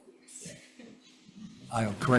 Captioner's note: chuckles